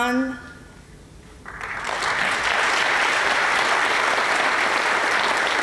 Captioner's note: applause